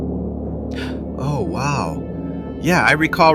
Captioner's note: gasps